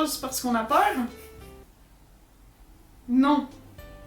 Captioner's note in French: awkward silence